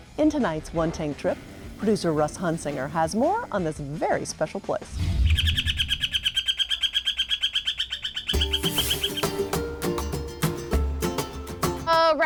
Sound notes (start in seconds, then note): 5.0 bird chirping; 8.3 lively music